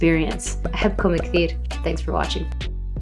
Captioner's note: speaks in foreign language